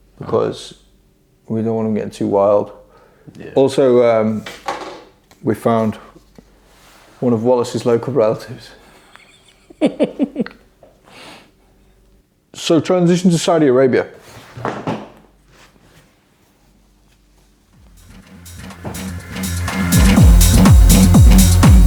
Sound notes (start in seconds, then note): 8.9 chuckles; 14.6 chair thuds; 17.8 upbeat house music